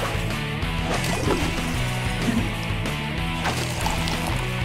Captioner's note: rock music playing; items splashing